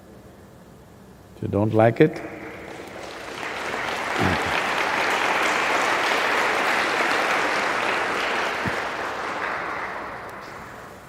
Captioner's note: applause